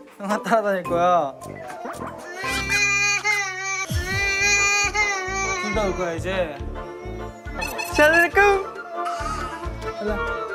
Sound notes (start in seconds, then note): 1.6 already crying; 1.6 starts crying